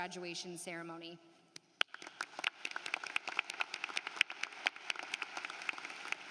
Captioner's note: applause